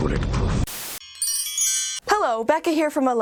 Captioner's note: chimes